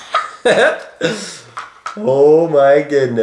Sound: laughs

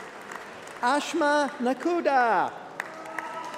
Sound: applause

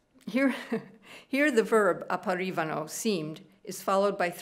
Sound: speaking italian

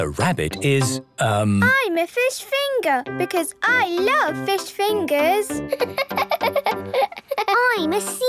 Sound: laughing

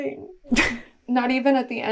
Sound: laughs

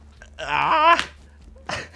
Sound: strained noises; laughing

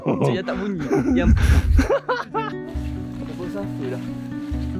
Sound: laugh

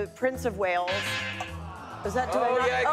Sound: buzzer prompts

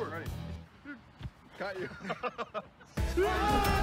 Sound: laughs

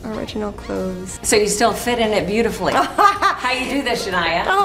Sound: laughs

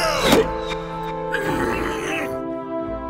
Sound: grunting angrily

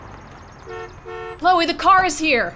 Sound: car honking

